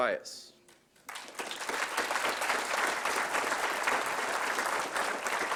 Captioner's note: applause